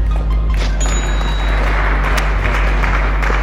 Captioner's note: upbeat music; cash register chime; applause